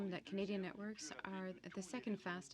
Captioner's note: speaking French